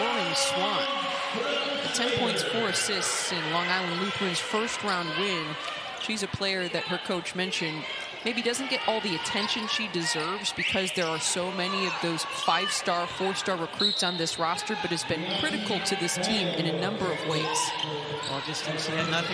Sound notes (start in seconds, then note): 7.0 crowd noise